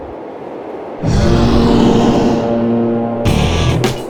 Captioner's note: beast whooshes; horn resounds; upbeat rock music